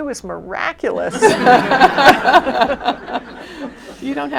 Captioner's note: laughter